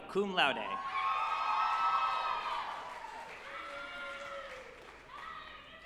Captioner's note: group applauding and cheering